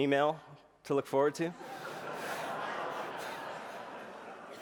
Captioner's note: laughter